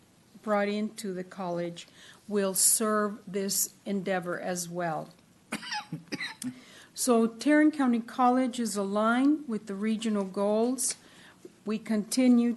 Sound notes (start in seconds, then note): 5.5 coughing